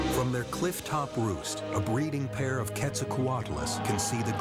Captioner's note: screeches